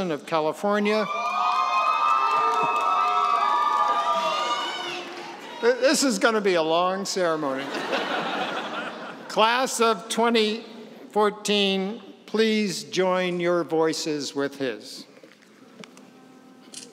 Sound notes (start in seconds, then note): 0.9 cheering; 7.6 laughing